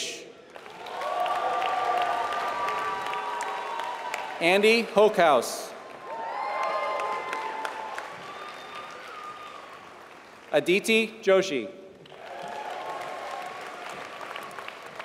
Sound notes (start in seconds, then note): 0.4 applause